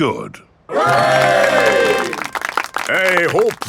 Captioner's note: clapping